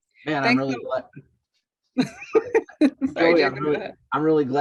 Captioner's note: laughs